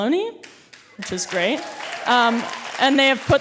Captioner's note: audience cheering